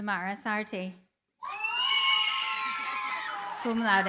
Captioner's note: cheering, applause